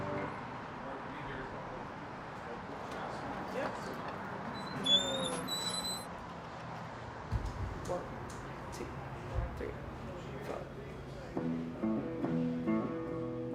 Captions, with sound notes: (door creaks) - One, two, three, four.